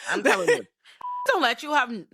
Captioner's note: beep